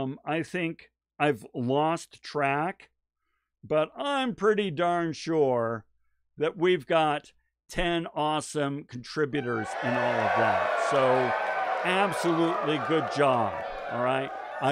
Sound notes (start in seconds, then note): 9.4 cheering